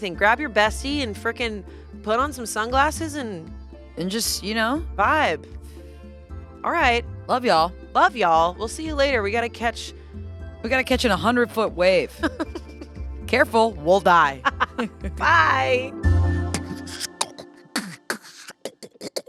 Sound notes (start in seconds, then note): 12.1 laughs; 16.5 beat boxing